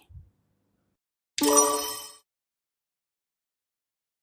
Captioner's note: sonido de timbre correcto